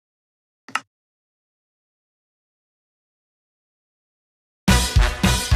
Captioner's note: click